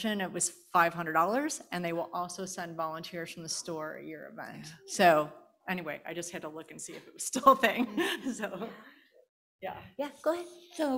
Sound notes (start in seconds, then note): 7.4 laughing